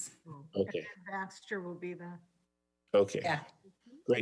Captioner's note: faintly speaking